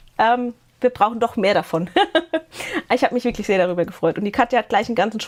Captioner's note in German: gelächter